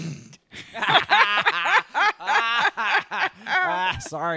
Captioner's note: obnoxious cackles